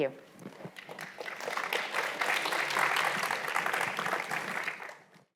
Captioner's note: audience applauds